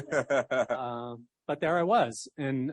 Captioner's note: laughter